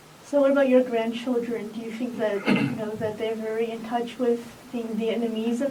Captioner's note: coughs